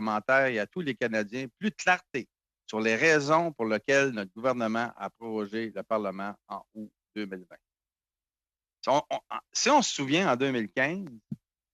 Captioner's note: speaking in french